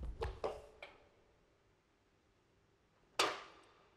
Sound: can Clatters on Floor; can Falls and Rolls Across Floor

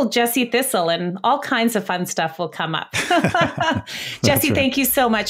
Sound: laughs

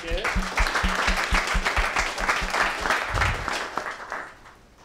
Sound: applause

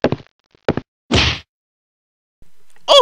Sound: punching

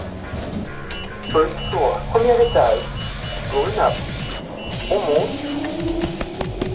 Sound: beeping

